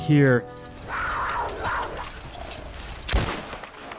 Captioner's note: cougar growls